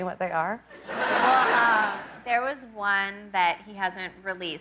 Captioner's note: laughter